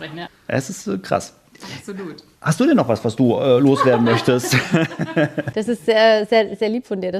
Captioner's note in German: gelächter